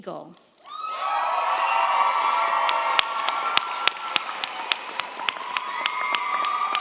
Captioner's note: crowd cheering; crowd clapping